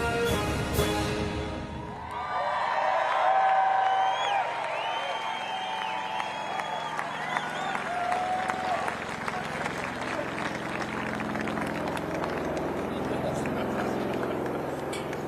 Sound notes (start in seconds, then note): 3.9 cheers and applause